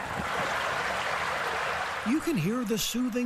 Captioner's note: water flowing